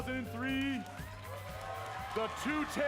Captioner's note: cheering and applause